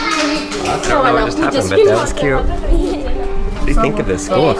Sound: children drowning out speaker

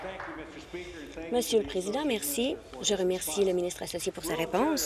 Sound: applause

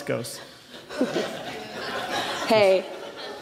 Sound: laughter

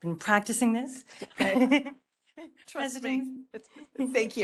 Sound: laughing

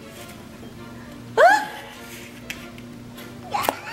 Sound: yelps

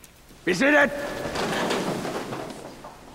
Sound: chairs settling

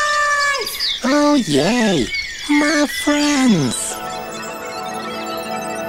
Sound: lots of birdsong and insect noises

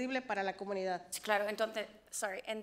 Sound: board member speaks foreign language

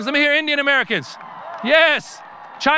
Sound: audience cheering

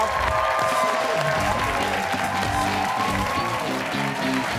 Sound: cheers and applause

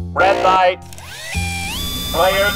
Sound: robotic whirring

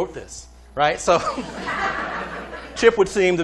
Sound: laughter

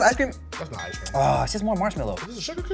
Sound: groans

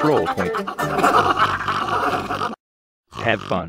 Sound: sexual snorts

